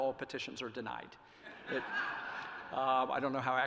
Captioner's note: laughter